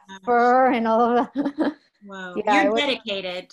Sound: giggles

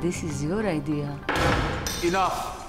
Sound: slamming sound

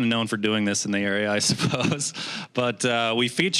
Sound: laughing

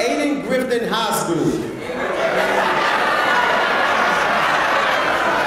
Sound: laugh

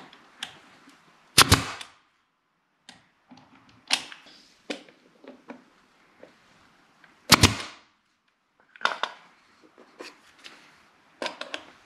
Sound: nailing sounds

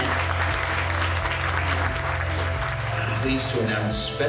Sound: applause

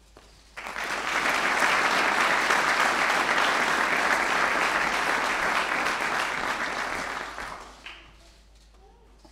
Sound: applause

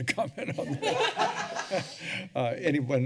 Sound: laughter

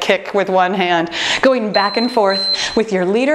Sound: timer beeping

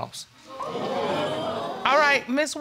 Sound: audience gasping

